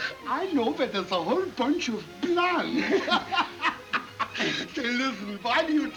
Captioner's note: laughs